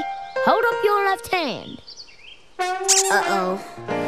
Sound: ducks quacking; squeak

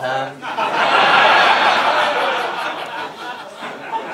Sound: laughter

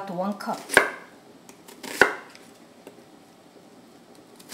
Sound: chopping the onion

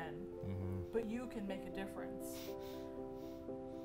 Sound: laughs softly

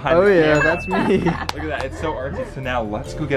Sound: laughs

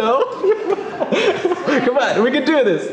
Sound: laughing

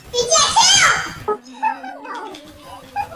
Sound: laughing

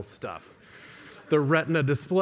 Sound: laughter

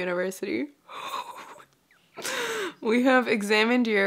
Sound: breathes out and stammers

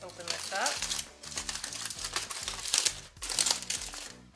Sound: foil rustling

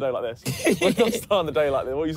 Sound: laughs

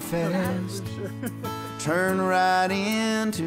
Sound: all laughing and chatting

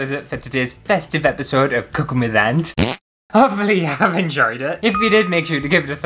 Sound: fart!

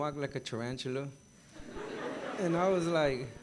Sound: gathering laughing

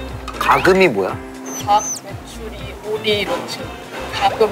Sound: chirp chirp

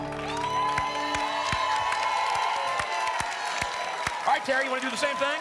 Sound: applause and cheering

